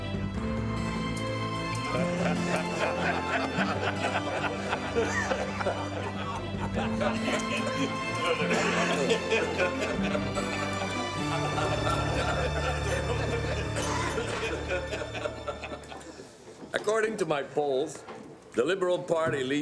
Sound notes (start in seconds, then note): 2.0 cabinet members laughing